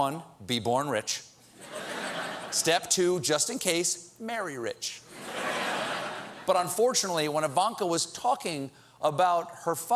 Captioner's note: laughter